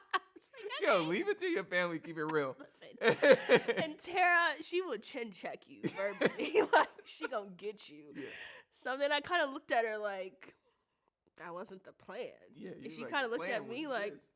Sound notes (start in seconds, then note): 3.0 laughs; 5.9 chuckles